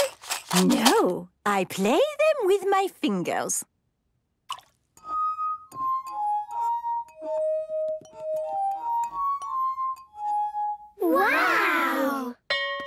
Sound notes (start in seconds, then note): 4.4 water drips; 5.0 glasses vibrate melodically